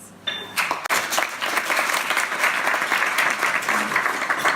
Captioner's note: audience applauds